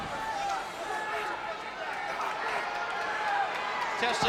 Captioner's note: spectators cheering